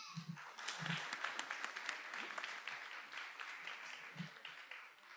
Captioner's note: attendees applauding